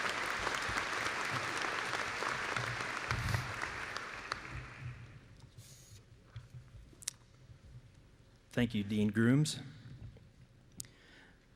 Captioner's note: applause